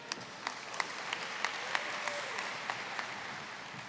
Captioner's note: applause